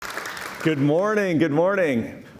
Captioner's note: audience clapping